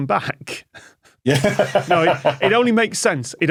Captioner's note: laughs